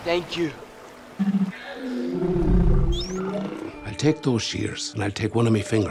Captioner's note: whale sounds